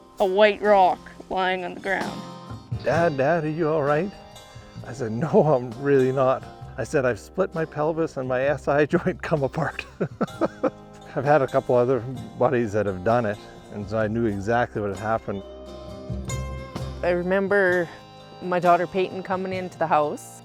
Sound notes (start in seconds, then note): 9.8 laugh